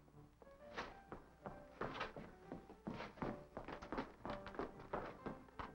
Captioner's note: footsteps thudding